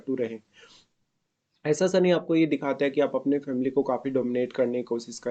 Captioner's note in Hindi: नाक से की जाने वाली आवाज़